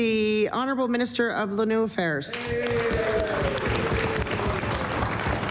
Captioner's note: some Applause